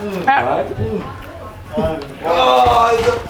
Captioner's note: shouting